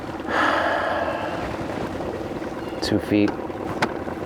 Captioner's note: river babbling; engine idling